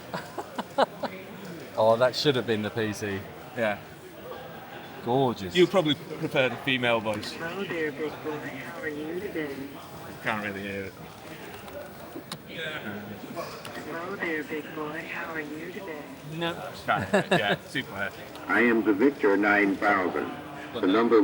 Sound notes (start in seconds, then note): 0.0 laughing; 16.8 laughing